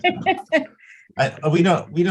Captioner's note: chuckling